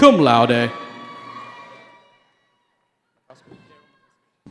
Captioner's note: cheering